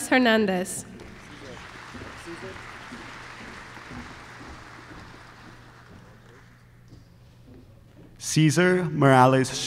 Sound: applause

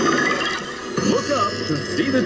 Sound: machine whirring

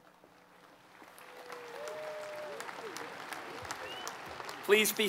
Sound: applause

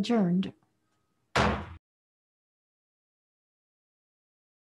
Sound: gavel banging

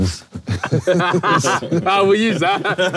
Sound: Sidemen laughing

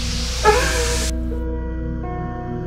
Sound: Bryan cries

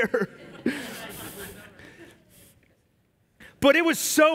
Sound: congregation laugh

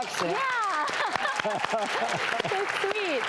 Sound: crowd Clapping

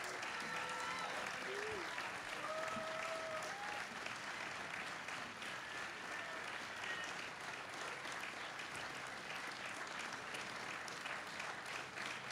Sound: applause

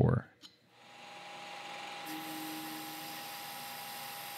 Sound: lathe whirring

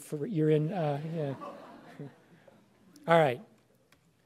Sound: laughter

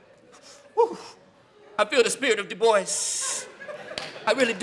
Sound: laughing

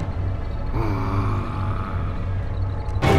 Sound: groaning

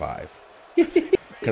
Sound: laugh

